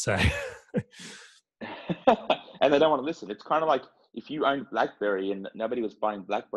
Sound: laugh

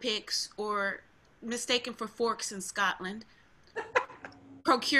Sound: laughing

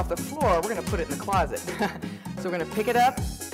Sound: laughs

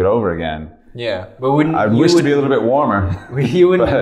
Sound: chuckles

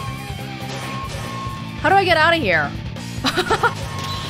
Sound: chuckles

